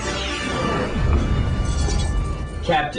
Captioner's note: explosion